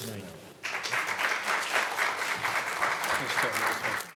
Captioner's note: audience clapping